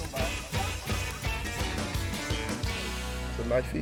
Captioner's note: men laughing